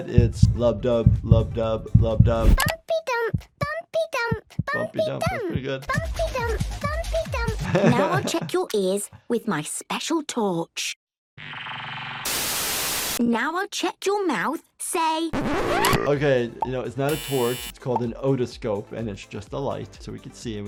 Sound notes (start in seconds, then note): 12.3 TV static; 15.9 burp sound effect